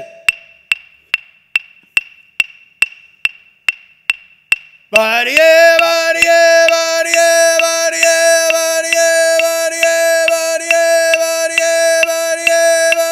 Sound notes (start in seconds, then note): 0.2 clapsticks clacking; 5.0 chanting in foreign language